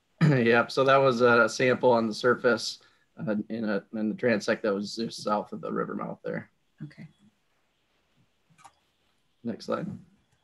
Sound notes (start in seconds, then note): 0.0 laughs; 8.6 clicking